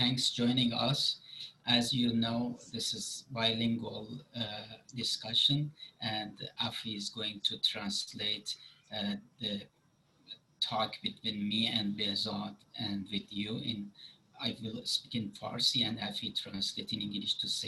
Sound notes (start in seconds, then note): 12.3 speaking Farsi